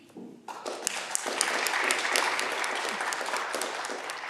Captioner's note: audience clapping